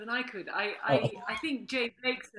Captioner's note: laughing